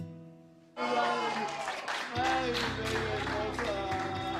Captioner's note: applause